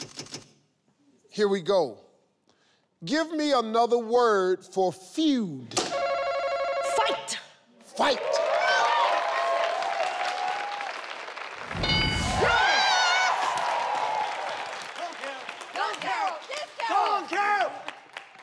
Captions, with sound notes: Here we go. Give me another word for feud. (beep) - Fight. - Fight. (audience cheers)